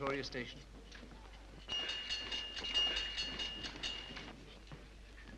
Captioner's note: knife clangs